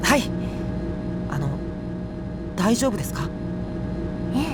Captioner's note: whisper